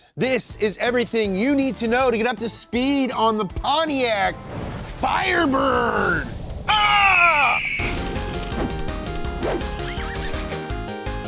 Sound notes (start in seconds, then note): 6.6 screaming; 7.8 bright upbeat music